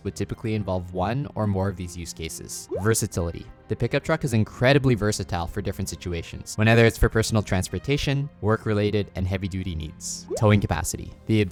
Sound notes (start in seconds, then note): 2.7 graphics popping; 10.2 graphics popping